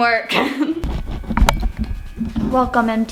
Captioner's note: laughs